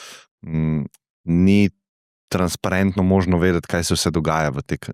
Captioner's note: blow